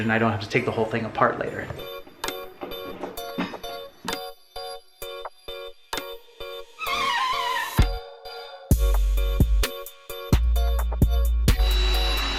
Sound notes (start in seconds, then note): 2.1 calm music; 6.9 electric drill whirs; 9.0 calm music; 11.5 electric drill whirs